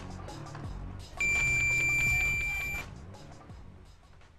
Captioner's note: beeping